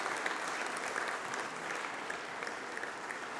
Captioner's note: applause